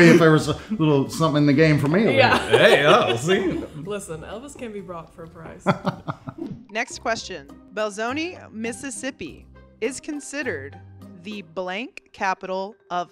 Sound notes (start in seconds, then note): 5.6 Elvis laughing